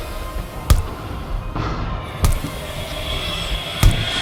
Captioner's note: hammering continues